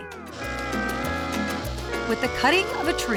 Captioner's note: sawing